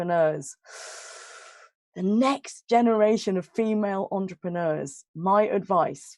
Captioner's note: breathes in